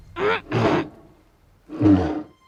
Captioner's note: bear noises